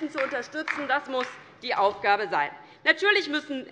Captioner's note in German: Beifall DIE LINKE